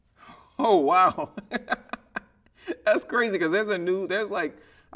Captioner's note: laughing